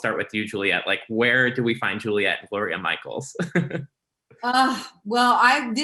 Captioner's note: laughing